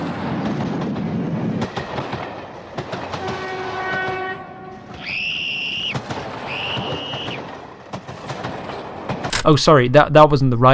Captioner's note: screams